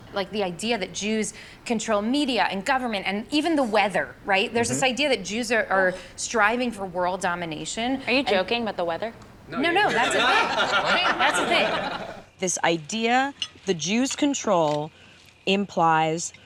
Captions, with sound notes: The idea that Jews control media and government and even the weather, right? There's this idea that Jews are striving for world domination. Are you joking about the weather? - No, no. That's a thing. - ( laughing ) This idea, the Jews control, implies